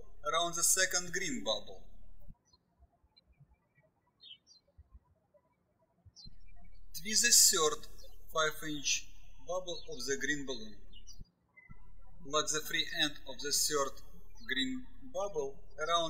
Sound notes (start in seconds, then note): 3.0 birds chirping